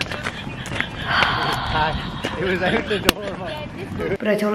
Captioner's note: laughing; sighs